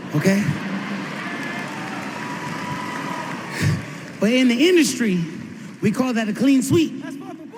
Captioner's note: laughter, applause